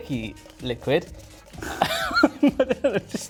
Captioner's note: laughing